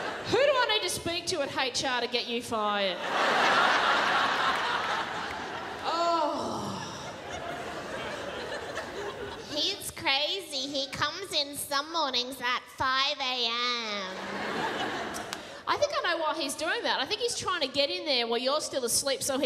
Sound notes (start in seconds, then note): 6.1 groans